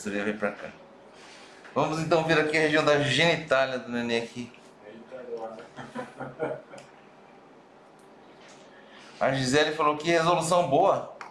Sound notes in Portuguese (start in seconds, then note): 5.7 risos